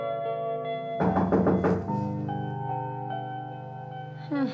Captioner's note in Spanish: toques en la puerta